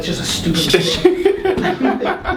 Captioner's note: laughs